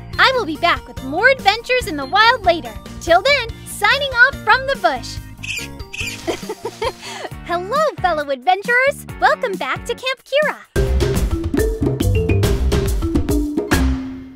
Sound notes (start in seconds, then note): 5.4 Blossom squeaks; 6.0 laughs; 10.7 upbeat music